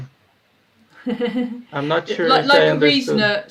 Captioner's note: laughs